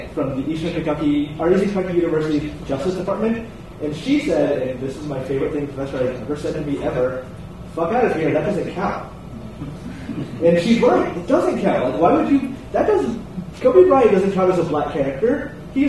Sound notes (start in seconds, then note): 9.4 audience chuckles